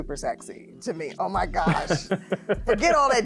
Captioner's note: laughing